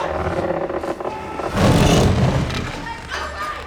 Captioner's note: gate slams